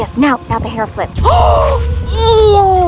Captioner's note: gasps